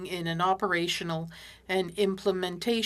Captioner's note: speaking French